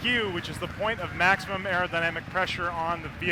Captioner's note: cheers and applause